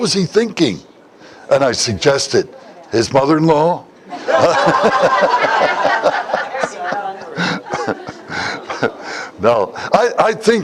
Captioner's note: Смех